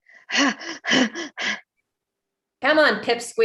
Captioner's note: fighter huffing